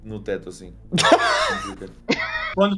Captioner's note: laughs